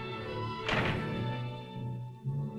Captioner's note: door closes